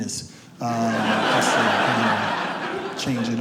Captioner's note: audience laughs